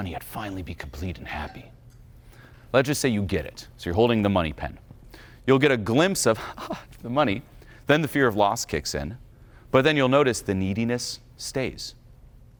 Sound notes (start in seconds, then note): 6.4 laughs